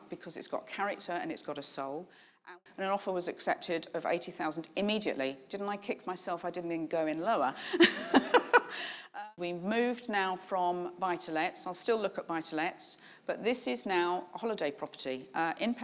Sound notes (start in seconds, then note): 7.8 laughs